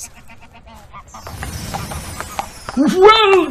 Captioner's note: Sparkle, then hooves as Dobbin enters